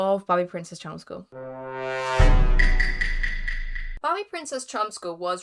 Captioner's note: Among us sound effect